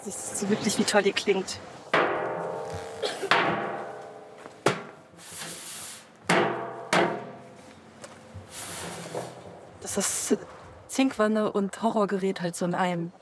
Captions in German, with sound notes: Wie toll die klingt. (Dumpfer Klang) Das ist Zinkwanne und Horrorgerät in einem.